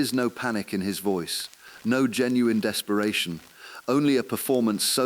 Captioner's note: exhale